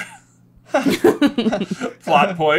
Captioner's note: laughter